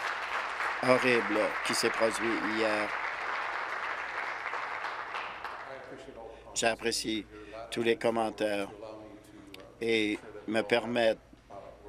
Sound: applause

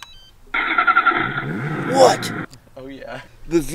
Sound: engine turning on

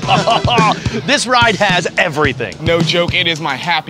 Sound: laughing

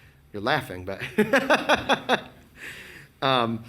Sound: laughs

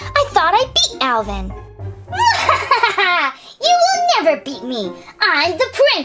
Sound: laughs diabolically

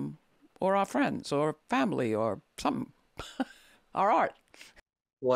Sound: chuckles

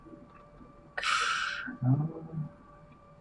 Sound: sighs

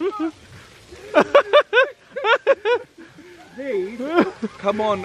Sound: group laughing

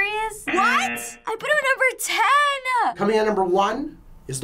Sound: buzzer

